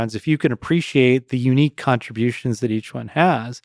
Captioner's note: none